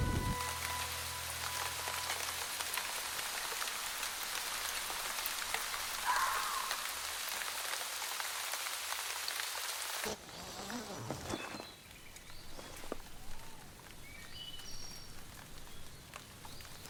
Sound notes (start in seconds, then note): 0.0 gentle orchestral music continues; 1.7 rain pattering; 10.0 tent unzipping; 11.0 birds chirping